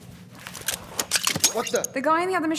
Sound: blaster being pulled

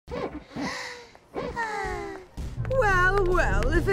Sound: all sighing

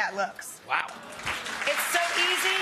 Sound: audience applauds

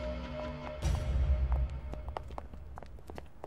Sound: footsteps

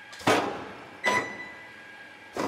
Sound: beep

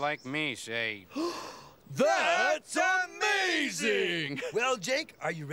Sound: gasps

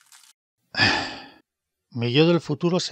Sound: exhales in poverty

